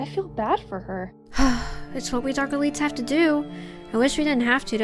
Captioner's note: sigh